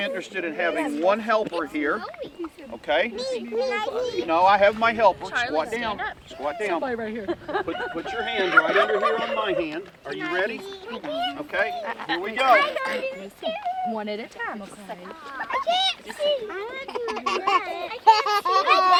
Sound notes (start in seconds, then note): 7.2 laughs; 7.6 turkey gobbling